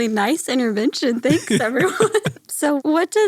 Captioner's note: laughs